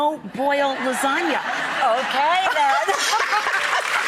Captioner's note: laughing